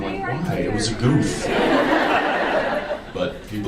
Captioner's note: audience laughs